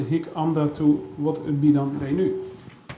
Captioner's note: speaks Dutch